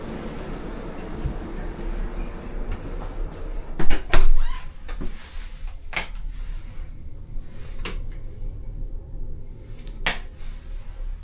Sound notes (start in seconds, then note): 2.0 sound of the lock